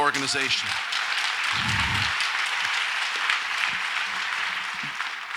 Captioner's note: audience applauds